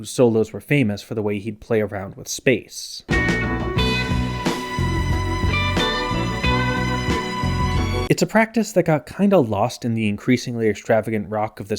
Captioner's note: bang